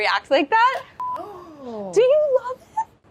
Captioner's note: video beeps